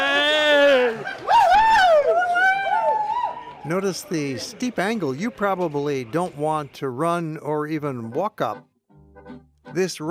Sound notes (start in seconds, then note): 0.0 happy yelling